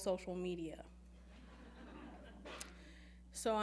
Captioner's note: laughing